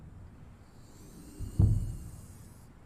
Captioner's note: whirring